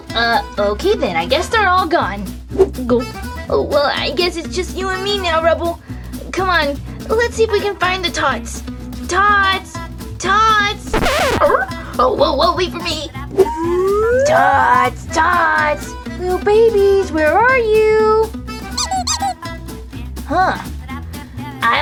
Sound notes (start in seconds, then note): 18.7 squeak sound